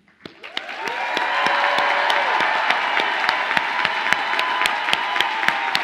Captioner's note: audience applauding and cheering